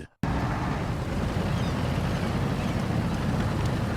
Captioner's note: engine hums lightly